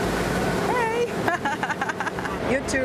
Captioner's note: laughs